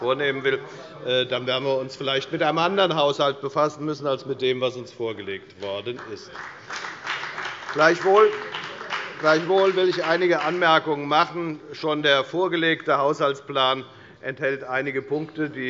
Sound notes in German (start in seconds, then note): 5.6 Beifall bei der FDP